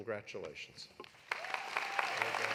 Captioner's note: audience applauding; audience cheering